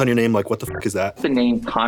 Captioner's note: beep